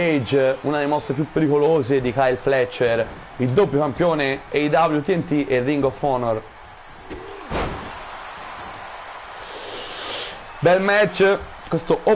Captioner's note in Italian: Applauso